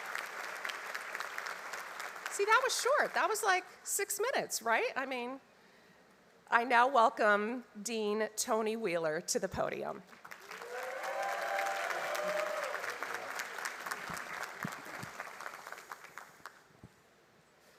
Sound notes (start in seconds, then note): 2.1 applause